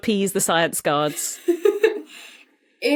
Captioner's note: giggles